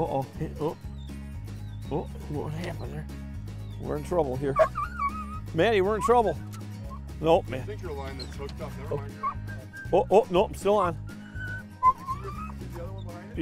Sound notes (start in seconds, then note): 4.5 whimpering